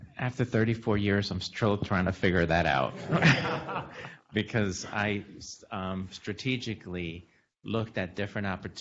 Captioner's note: laughter